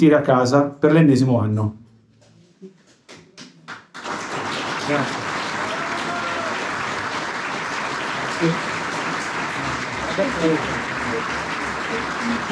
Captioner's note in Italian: Applauso